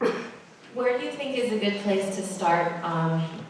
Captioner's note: voiceover